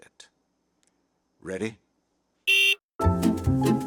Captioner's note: car beep